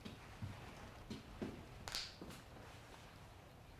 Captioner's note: knuckles Cracking